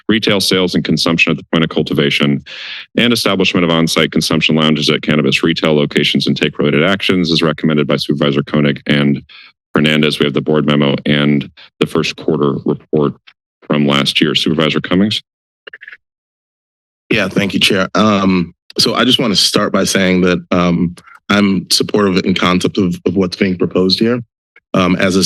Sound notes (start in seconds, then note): 15.7 silence